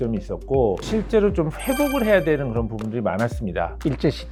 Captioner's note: emphasizing sound effect